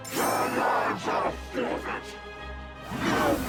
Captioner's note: Idore shouting